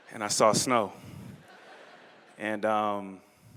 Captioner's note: laughter